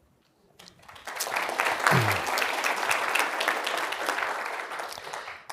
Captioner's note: applause